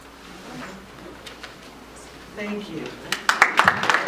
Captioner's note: applause